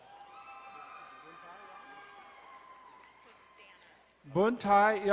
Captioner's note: crowd cheering and applauding